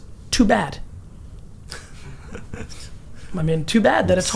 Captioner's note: laughs